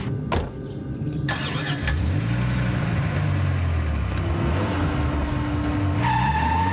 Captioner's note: engine turns over; engine revs; tires squealing